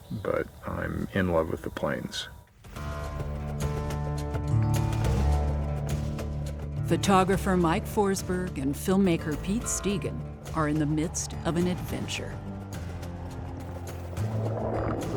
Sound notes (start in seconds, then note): 5.3 gentle guitar music; 13.8 water gurgling